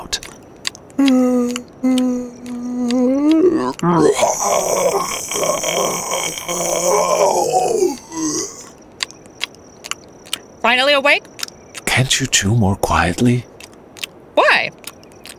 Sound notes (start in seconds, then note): 0.0 gazelle chewing; 1.9 lion jawning